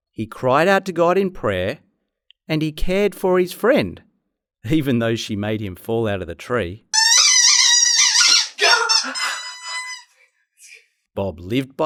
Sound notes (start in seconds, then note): 6.9 toys squeaking